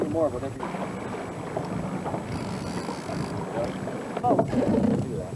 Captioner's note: water sounds